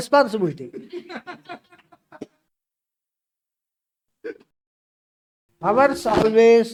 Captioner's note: laughs